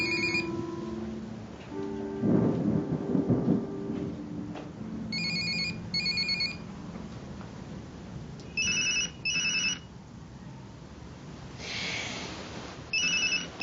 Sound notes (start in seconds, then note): 8.7 cellphone rings and vibrates